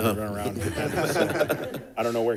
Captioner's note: laughter